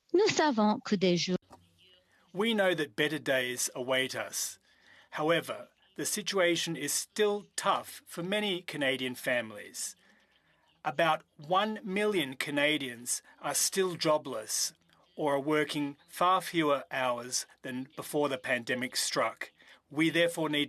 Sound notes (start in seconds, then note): 5.6 speaking French